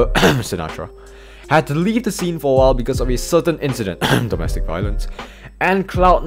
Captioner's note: ahem